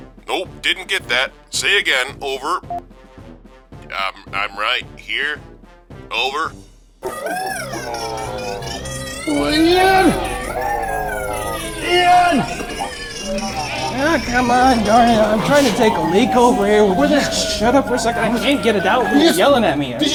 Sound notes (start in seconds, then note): 2.7 boop; 7.4 crazy creep loud noises